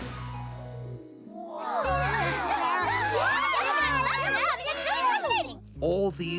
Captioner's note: excited chatter